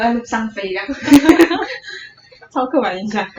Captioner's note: laughter